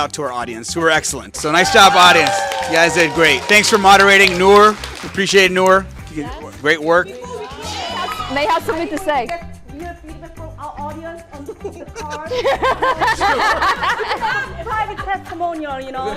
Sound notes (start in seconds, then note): 1.4 audience cheering